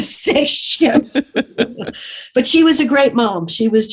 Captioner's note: guffaw